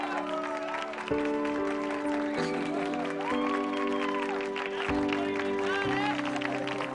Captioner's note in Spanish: Aplausos y exclamaciones